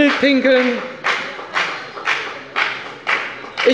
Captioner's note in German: Heiterkeit und Beifall bei der FDP